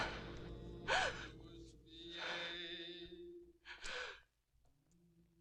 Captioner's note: Olivia gasping